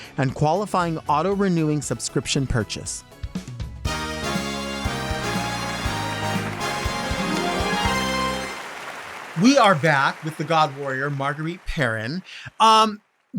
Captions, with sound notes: and qualifying auto-renewing subscription purchase. (upbeat music) (audience applauding) We are back with the God Warrior, Marguerite Perrin.